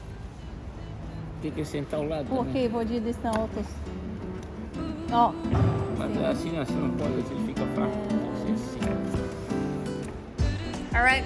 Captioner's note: chatting